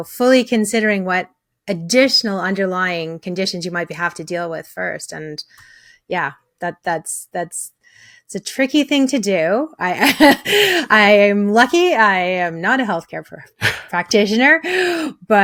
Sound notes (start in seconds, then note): 10.0 chuckles